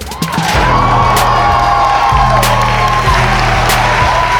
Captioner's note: crowd Cheering